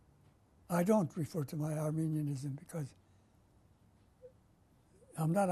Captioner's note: pauses for 3 seconds